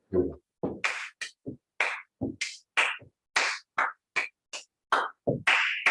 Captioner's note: clapping, stomping